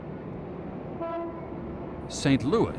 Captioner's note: horn beeping